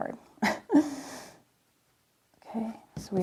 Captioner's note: chuckling